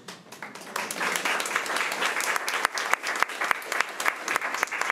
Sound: crowd clapping

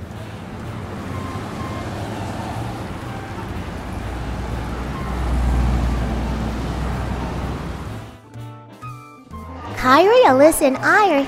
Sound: traffic Sounds

